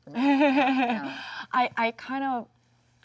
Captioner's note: Jung laughs